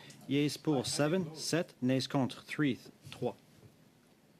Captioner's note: speaking French